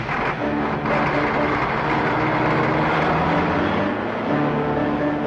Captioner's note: truck engine whirring